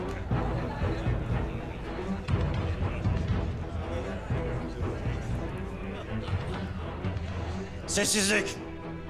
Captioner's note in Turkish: Fısıltı sesleri